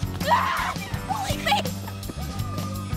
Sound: screams

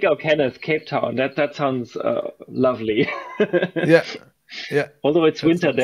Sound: laughs

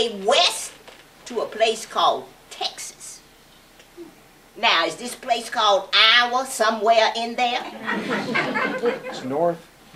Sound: laughter

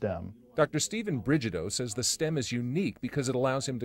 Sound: voiceover

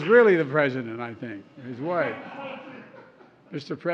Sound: laughs

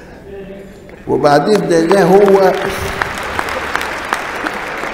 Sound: audience applauds

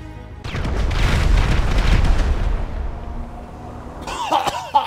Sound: explosion

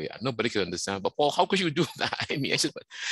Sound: laughs

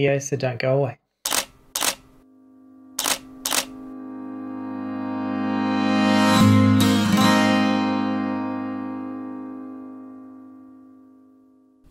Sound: camera shutter clicks and music swells

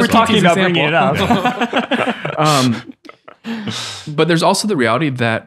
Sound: friars laughing

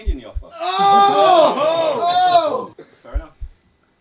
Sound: all screaming; heart beating

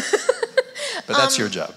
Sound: laughs

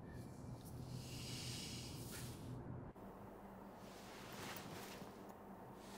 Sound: John exhales sharply

